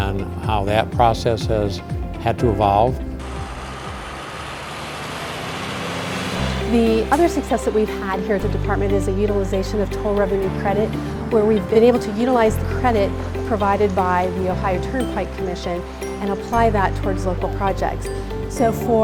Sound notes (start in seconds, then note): 3.4 trucks passing